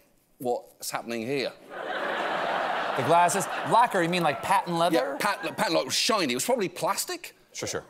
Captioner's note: laughter